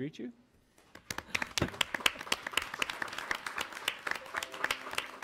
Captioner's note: audience applauds